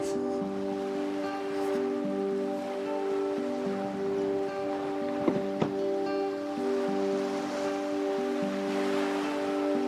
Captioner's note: ocean waves